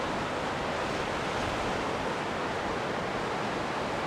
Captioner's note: sound of river echoing